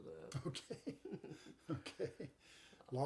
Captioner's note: chuckles